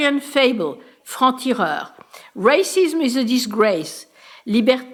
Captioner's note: french